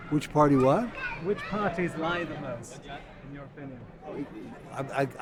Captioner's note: voiceover